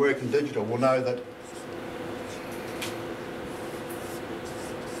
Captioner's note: whiteboard Sounds